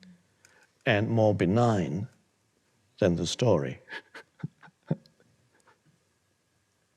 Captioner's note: chuckles